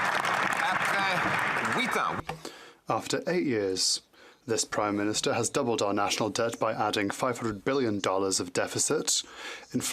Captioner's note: some Applause